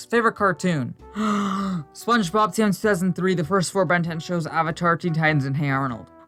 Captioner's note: inhale